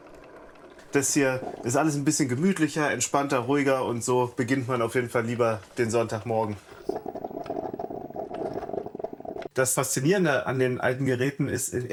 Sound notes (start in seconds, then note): 6.6 gurgling